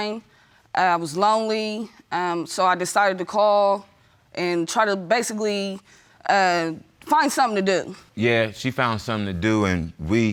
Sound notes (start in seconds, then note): none